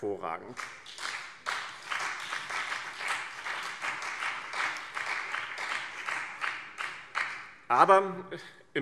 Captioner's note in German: Beifall BÜNDNIS 90/DIE GRÜNEN und CDU